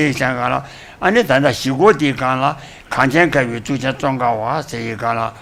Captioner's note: speaks foreign language